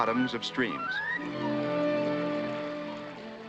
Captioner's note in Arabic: صوت نداء